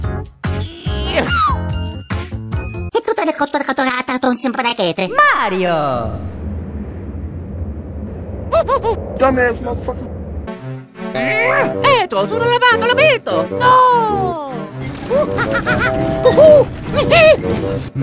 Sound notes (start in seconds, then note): 4.2 High pitched Mario gibberlish